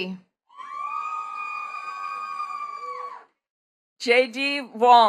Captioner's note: attendees cheering and clapping